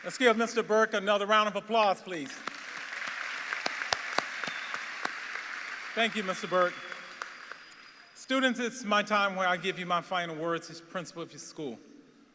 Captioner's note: applause